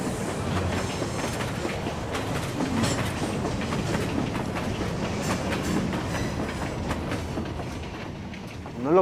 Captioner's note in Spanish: Sonido de tren